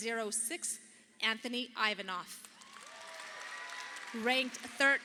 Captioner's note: audience applauding